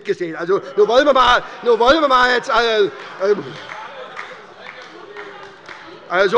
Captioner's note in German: Heiterkeit und Beifall bei der SPD